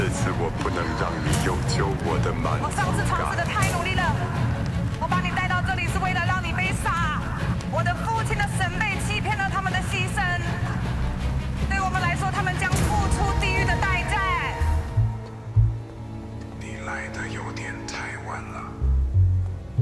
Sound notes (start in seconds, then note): 7.4 fire roar; 14.3 music ascending